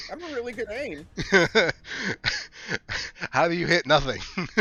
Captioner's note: DM Laughing